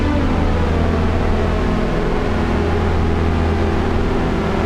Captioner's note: pitch descends